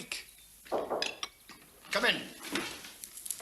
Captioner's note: knock at door